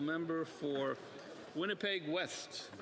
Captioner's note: speaking French